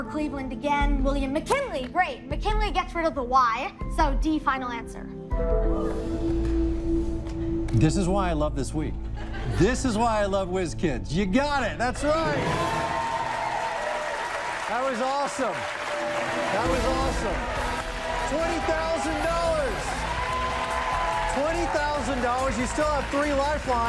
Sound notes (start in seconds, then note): 13.3 cheers and applause